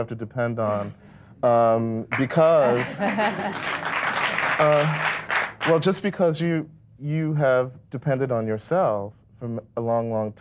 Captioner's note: clapping